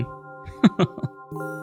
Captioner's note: laughs